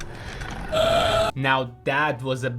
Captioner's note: groans